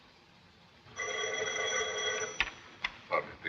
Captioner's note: phone rings